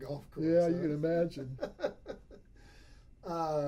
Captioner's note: laughs